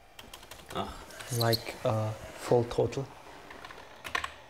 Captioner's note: mixes up English and German